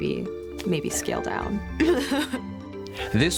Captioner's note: laughs